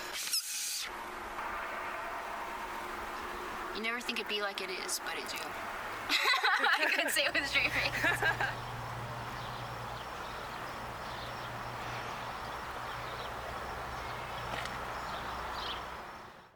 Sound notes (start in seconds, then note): 6.0 laughter; 8.4 birds chirping